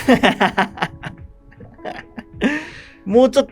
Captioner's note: laughing